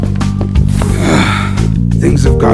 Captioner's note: sighs